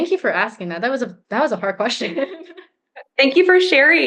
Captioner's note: giggles